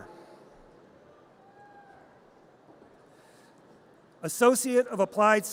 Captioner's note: audience cheers